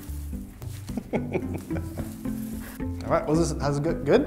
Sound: laughing

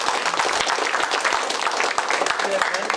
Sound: applause

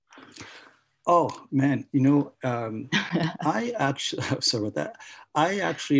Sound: laughs

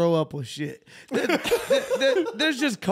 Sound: laughing

